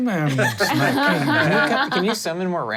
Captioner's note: everyone laughs